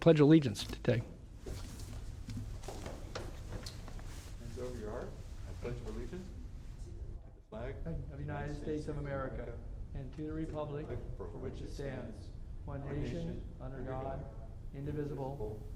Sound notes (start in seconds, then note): 3.6 reciting the pledge of allegiance